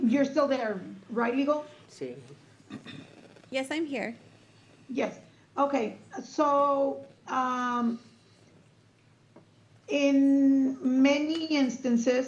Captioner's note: clears throat